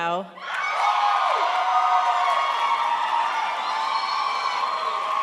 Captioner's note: crowd applauds